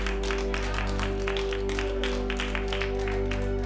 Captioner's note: clapping